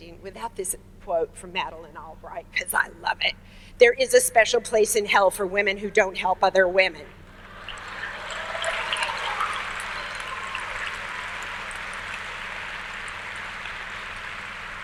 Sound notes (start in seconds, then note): 7.3 audience cheers